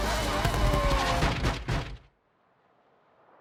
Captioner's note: knocking